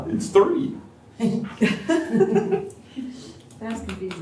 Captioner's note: laughter